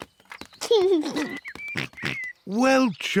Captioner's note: giggles